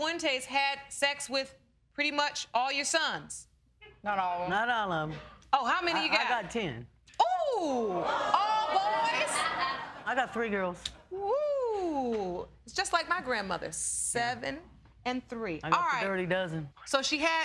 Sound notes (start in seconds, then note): 7.9 laughing